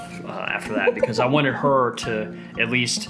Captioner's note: laughs